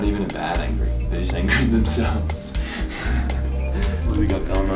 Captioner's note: laughter